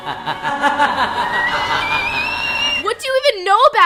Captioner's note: laughs; echoed laughter, whistling